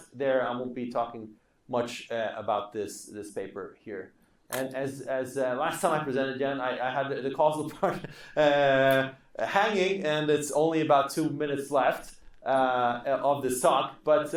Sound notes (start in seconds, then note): 7.8 laughing